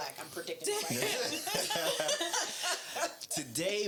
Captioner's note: laughing